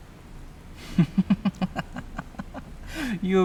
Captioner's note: Donovan laughing